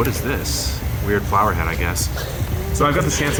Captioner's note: laughing